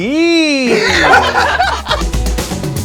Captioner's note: everyone laughs